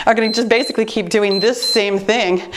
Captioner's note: timer beeps